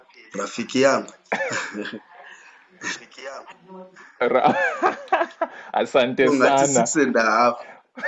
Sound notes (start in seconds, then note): 0.2 in Swahili; 5.1 laughs